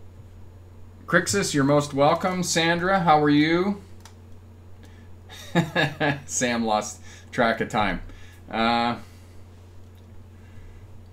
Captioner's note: chuckle